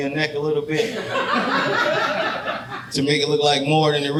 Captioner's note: audience laughing